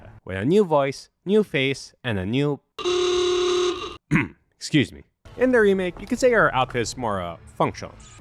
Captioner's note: car horn